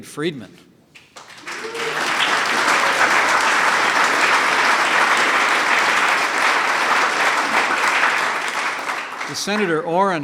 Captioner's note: applause